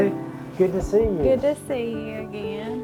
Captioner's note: hand patting